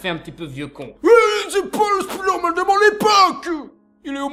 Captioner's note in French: Euoh!